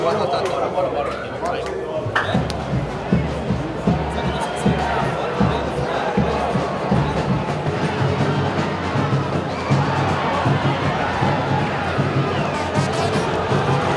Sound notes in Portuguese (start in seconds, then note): 2.4 sons da torcida